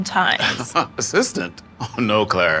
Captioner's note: laughs